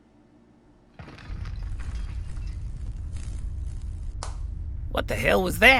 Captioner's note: rumbling, a lightbulb pops